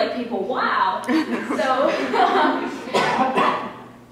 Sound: laughter

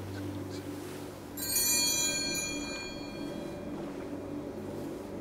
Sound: bells ring

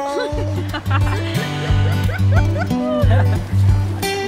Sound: laughing

